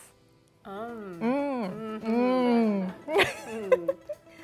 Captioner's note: speaking Japanese; both moaning; giggling